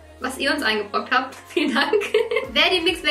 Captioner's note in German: lacht